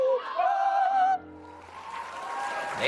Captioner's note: audience applauding